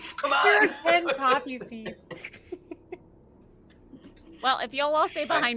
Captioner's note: speaks in foreign language; laughs